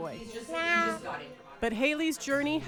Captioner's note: makes cat noise